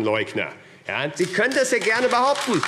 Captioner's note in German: Beifall AfD